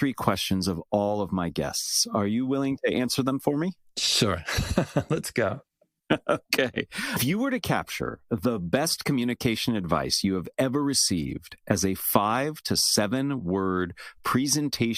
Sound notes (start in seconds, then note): 6.1 laugh